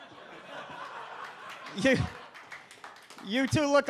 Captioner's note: audience laughs